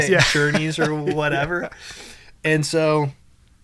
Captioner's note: laughs